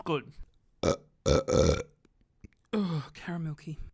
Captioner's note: burps